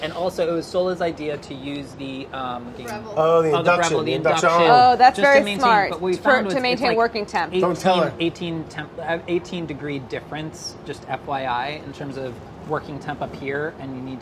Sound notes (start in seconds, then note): none